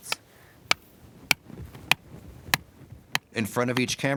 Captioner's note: hammering in stake